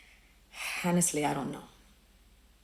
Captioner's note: sighs